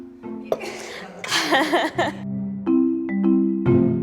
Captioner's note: laughing